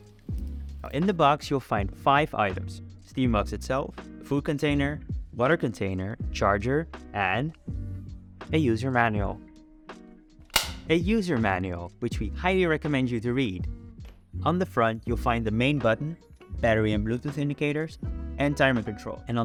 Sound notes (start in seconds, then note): 10.5 snap